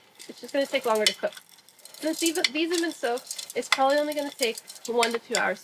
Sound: none

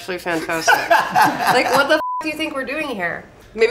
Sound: laughs; beep

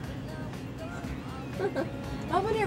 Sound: upbeat music; laughing

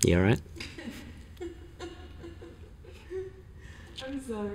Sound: laughing

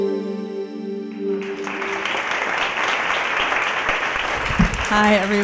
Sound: piano music; audience clapping

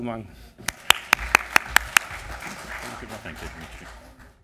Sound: audience applause

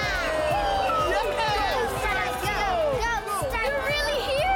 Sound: cheering; man and child chanting

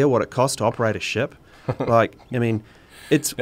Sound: laughs

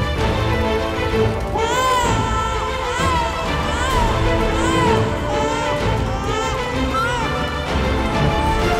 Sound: crying

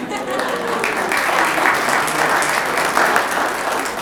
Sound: applause

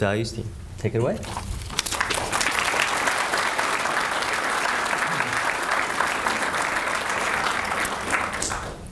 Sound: applause

